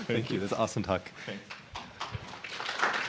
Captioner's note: applause